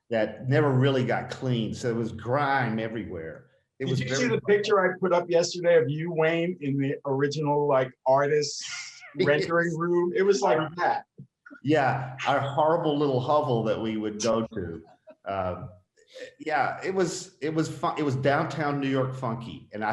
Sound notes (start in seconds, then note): 9.2 laughing